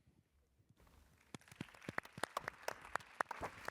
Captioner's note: applause